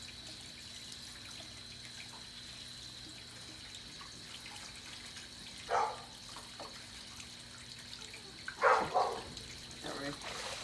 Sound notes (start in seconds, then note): 5.8 dog barking